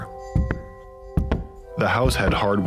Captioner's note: feet stomping